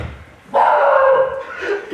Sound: bark

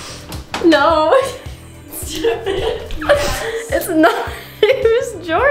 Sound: laughing

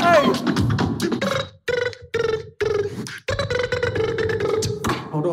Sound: beatboxing sound like phone ringing

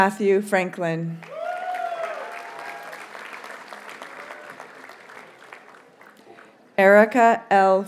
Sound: audience cheers and applauds

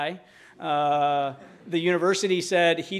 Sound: audience laughing

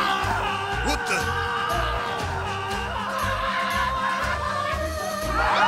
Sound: more screaming; screaming

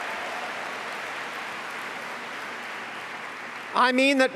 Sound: applause

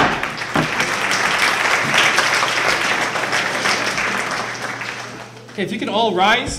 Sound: gavel bangs twice; applause

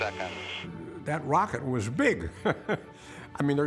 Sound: chuckles

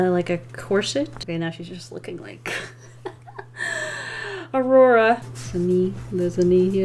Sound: laughs

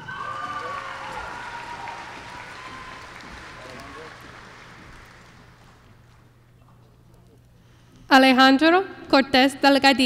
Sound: applause

